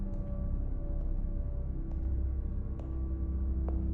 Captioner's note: footsteps